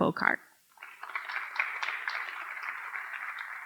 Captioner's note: applause